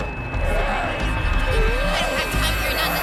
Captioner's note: grassy sobs